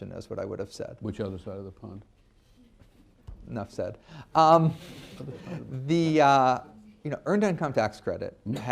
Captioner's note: laughter